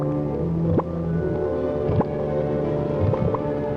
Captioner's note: bubbling